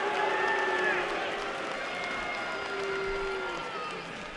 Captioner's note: cheers and applause